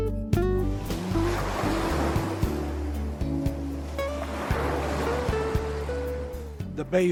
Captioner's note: sound of waves